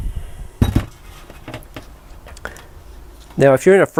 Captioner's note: clanking